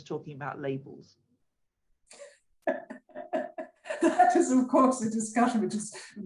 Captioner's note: laughter